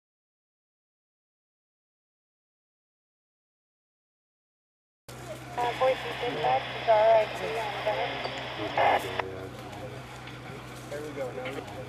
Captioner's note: paramedic and firefighters talking, chainsaw; radio traffic